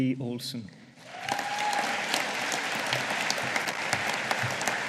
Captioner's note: audience applauding